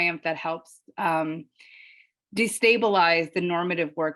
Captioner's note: none